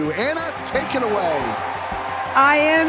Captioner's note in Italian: applausi e grida